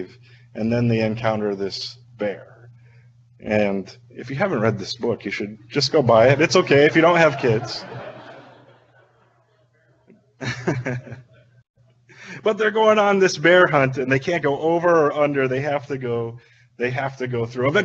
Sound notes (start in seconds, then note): 7.7 audience laughing; 10.4 chuckling